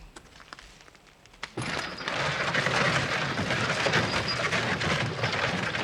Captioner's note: horse and wagon on gravel road